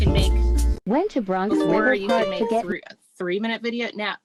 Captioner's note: automated Voice